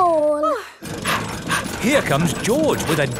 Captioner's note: daddy pig panting